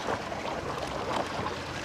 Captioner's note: splash